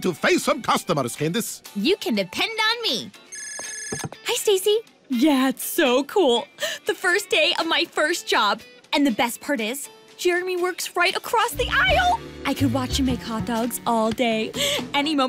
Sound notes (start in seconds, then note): 3.2 cell phone rings